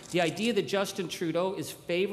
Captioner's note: camera shutter clicking